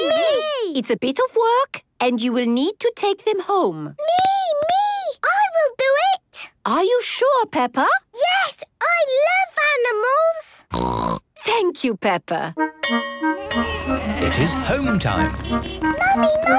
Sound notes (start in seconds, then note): 10.7 snorting; 12.6 honking; 12.8 bell clanging